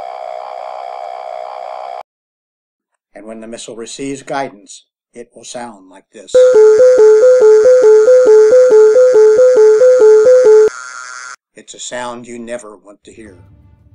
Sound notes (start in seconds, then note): 0.0 low Growling sound with slow Alarm Bells; 5.8 high Pitched Growl with rapid Alarms Bells